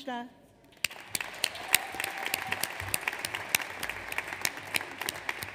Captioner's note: audience applauds